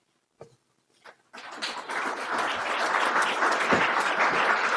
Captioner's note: audience applauding